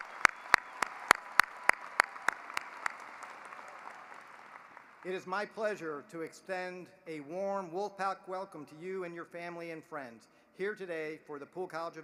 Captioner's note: applause